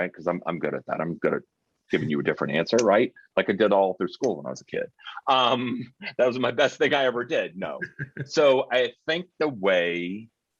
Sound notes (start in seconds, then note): 2.0 chuckling; 7.7 chuckling